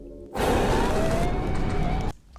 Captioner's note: monster shrieks, chainsaw revs